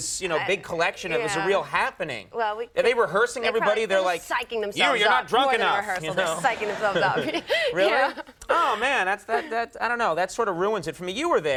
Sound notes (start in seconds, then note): 6.2 audience laughs